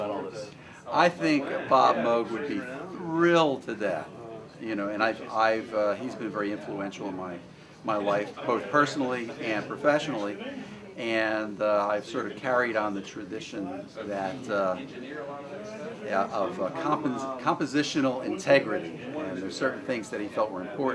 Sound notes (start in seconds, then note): none